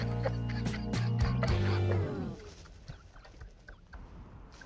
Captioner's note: laughs